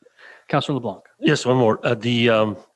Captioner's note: chuckles